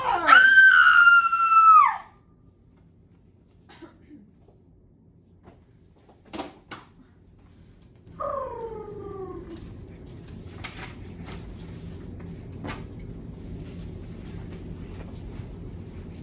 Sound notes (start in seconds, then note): 0.0 lion roars; 0.0 Thisbe screams; 8.1 lion purrs